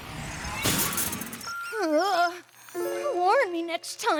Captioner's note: poof!; groans